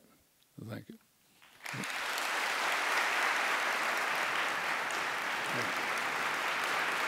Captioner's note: audience applauds